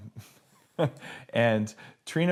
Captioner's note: laughs